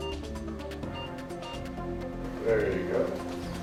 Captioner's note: machine beeping